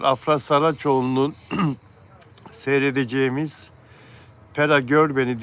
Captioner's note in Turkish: boğazını temizler